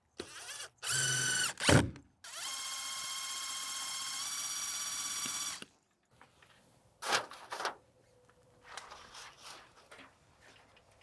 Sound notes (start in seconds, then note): 7.0 paper rustling